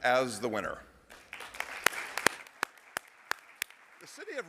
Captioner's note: applause